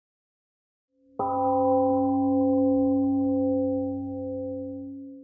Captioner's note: temple gong rings and fades